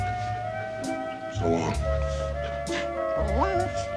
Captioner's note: dog whines